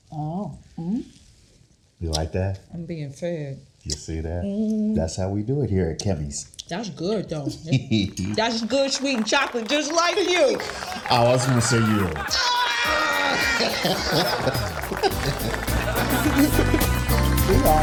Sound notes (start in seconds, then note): 12.5 both groaning; 14.0 audience applauds